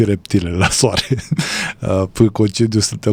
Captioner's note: laughter